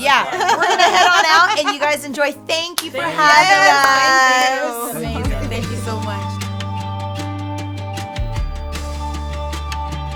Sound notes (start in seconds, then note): 2.9 all chattering; 6.6 bright upbeat music